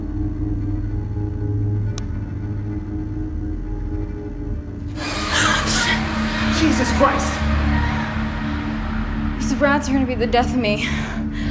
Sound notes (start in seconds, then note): 0.1 suspenseful music; 4.9 dramatic music; 4.9 gasping